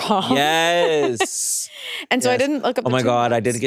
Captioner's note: chuckles